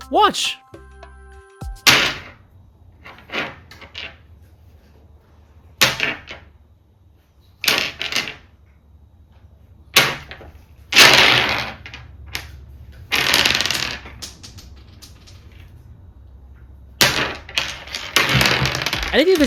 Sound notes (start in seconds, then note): 1.3 thwack; 5.6 clatter